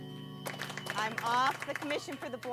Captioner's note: applauding